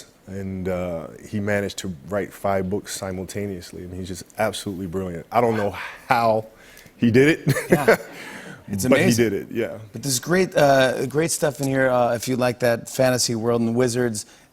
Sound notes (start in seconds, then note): 7.4 laughs